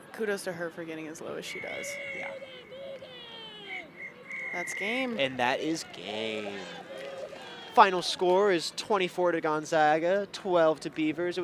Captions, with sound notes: Kudos to her for getting as low as she does. Yeah. [WHISTLE BLOWS] That's game. And that is game. Final score is 24 to Gonzaga, 12 to Beavers.